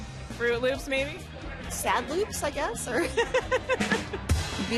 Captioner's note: laughs